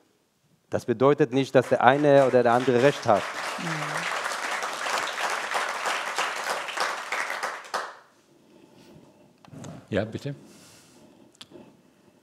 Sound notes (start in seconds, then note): 5.0 applause